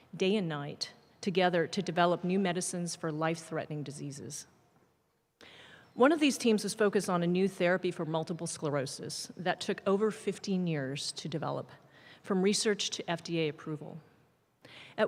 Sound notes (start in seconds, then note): none